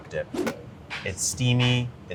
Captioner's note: air whooshing